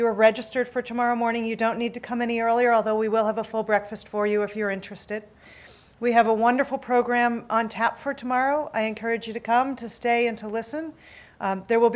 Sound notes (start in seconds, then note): none